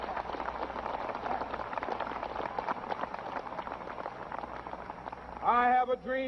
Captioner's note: cheers and applause